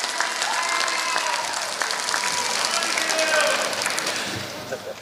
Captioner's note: applause